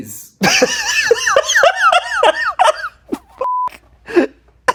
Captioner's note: laughing